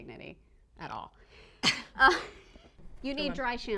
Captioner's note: laughing